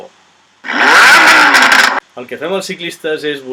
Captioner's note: car noise